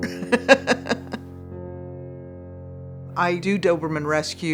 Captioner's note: chuckles